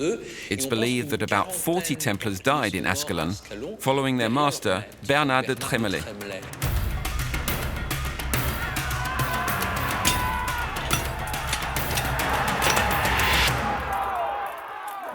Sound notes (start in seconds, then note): 6.4 tense instrumental; 8.8 shouting